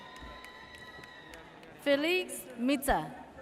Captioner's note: audience cheers